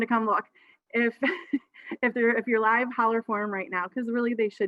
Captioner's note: chuckles